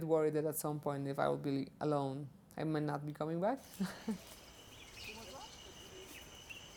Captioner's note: chuckles